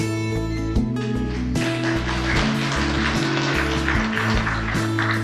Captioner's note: audience applause